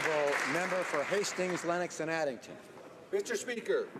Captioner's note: applause